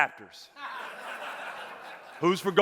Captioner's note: audience laughing